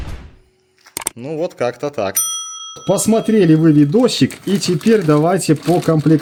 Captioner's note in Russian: колокольчик